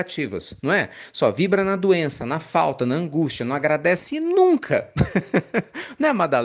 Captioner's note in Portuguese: risadas